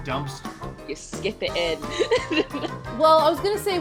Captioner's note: laughs